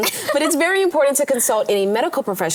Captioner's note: laughs